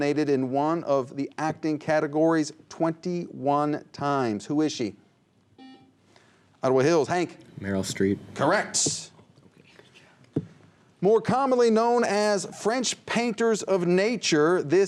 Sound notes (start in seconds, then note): 5.6 buzzer; 9.3 whispers